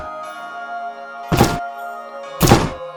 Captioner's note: chop!